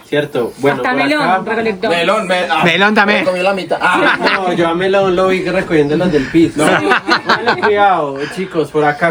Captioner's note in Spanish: risas